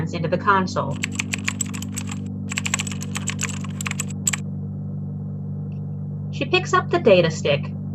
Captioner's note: clicking keys